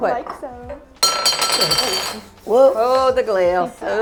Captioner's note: glass clatters